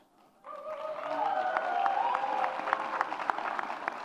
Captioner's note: audience cheers